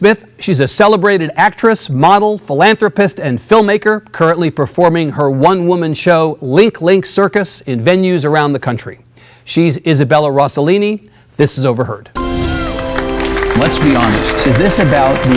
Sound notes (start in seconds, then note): 12.1 upbeat music; 12.2 audience clapping